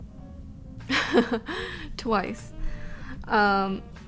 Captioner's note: laughing